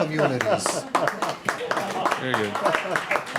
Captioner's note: applause and Laughter; applause